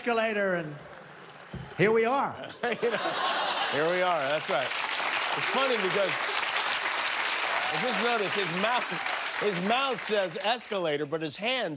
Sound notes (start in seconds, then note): 4.4 laughter; 7.5 applause